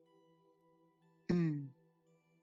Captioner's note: laughs